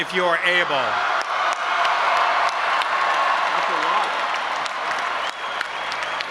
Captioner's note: audience applauding and cheering